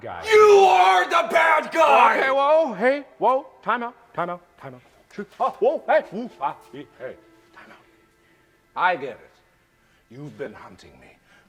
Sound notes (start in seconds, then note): 0.0 screaming; 2.0 calmly